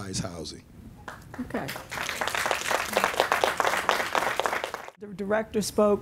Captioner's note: applause